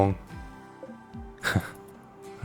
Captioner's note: chuckle